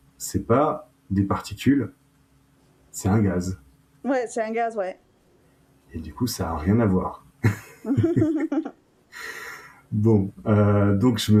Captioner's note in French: rires